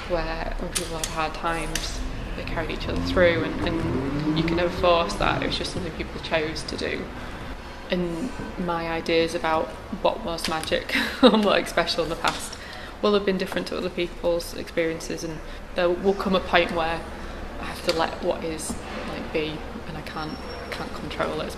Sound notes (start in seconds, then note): 10.9 laughs